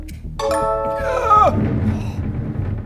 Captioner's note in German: Ersticktes Stöhnen